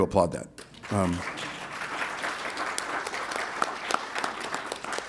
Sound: applause

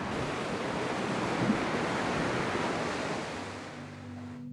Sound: ocean hisses

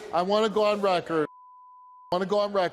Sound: beep

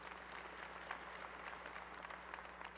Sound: applause

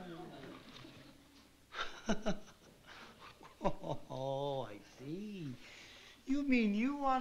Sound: laughs

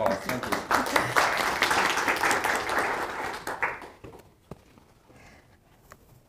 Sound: applause

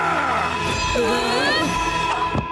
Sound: screaming; whimpering; roaring

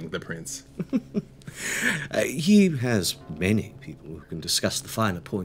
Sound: chuckles

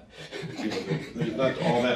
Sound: laughing; audience laughing

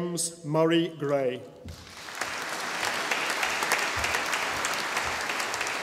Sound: audience applauding

